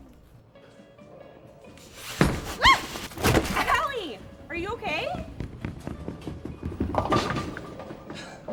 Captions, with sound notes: (Allie squeals) - Allie! Are you okay?